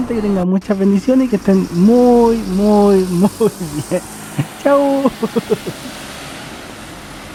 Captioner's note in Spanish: risas